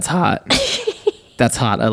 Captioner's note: laughing